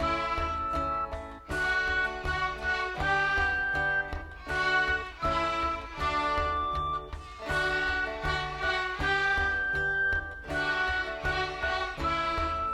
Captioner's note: clapping